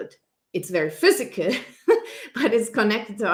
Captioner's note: laughs